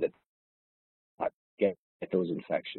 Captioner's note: audio distorts